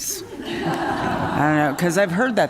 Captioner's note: laughter